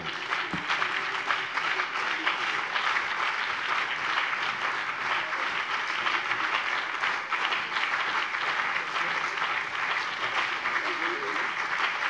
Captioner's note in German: Beifall BÜNDNIS 90/DIE GRÜNEN und CDU